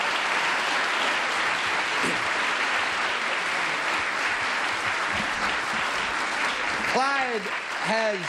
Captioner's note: applause